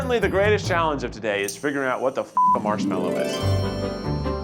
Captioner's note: lighthearted whimsical music; beeps